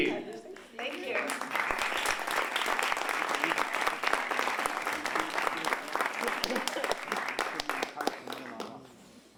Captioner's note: applause